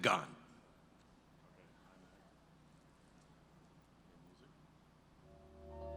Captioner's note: background Talking